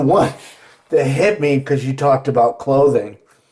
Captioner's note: laughs